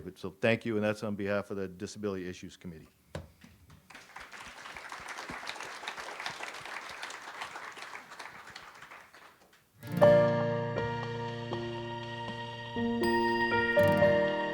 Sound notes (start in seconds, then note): 3.8 audience applauds; 9.9 gentle music